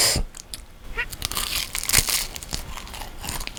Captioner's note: crunchy